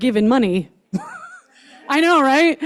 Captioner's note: chuckles